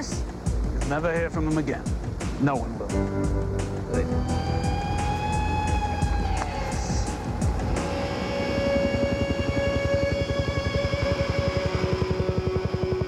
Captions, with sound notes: AND LAWLESS? YOU'LL NEVER HEAR FROM HIM AGAIN. NO ONE WILL. GOOD. [ HELICOPTER FLIES OVERHEAD ]